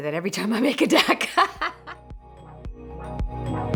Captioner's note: laughs; upbeat music